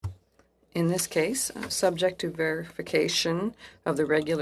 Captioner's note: speaking French